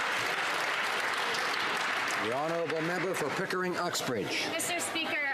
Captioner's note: some Applause